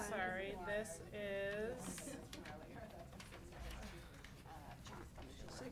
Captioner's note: people chattering